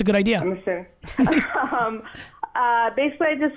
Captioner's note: laughs